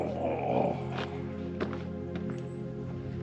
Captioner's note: grunts